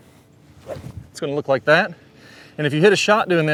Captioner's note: club whips